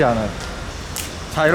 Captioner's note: clap